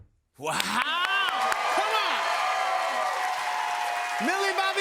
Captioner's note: cheers and applause